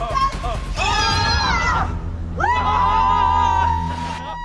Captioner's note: group screaming